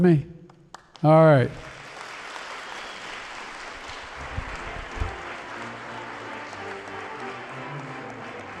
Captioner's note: applause